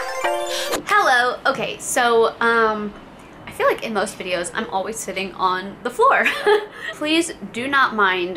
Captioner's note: laughs